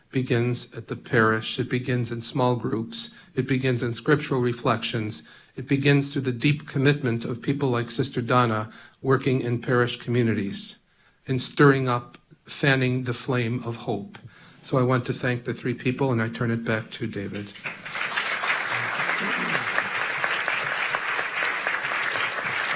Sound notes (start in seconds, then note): 17.4 audience clapping